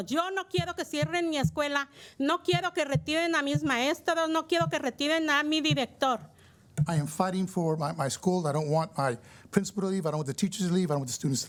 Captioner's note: speaking in spanish